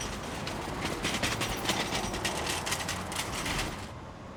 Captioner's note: cart rolling on bricks